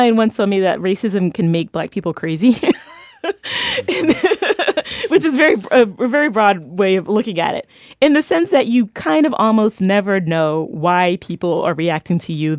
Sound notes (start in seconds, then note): 2.7 laughs